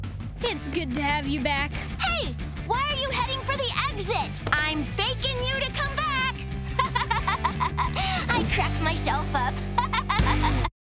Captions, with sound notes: It's good to have you back. Hey, why are you heading for the egg-sit? I'm bacon you to come back! [laughing] I crack myself up. [laughing]